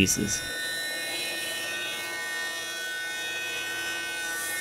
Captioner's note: machine whirs